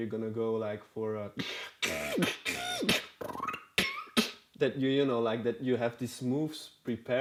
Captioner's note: beatboxing